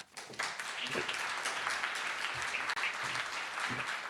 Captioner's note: audience applauds